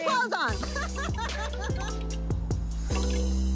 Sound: laughs

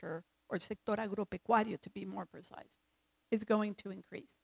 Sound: speaks in foreign language

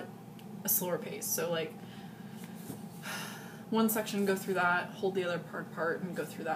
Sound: sigh

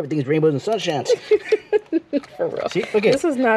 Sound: laughs

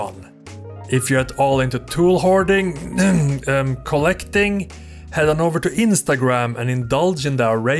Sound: cough

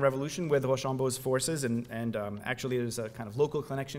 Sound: french

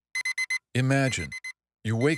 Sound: alarm beeps

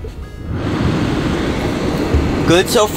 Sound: blowing

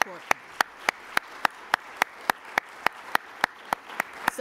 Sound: applause

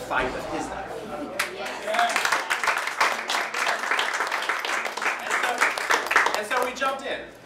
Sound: applause

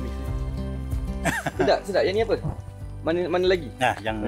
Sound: laugh

